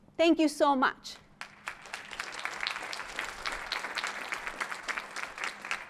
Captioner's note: applause